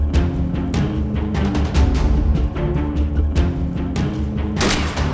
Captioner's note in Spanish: Habla entre dientes